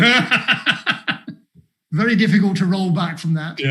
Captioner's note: laughs